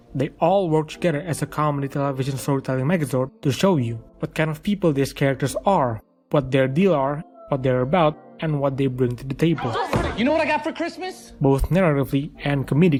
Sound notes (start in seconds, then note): 9.6 slams table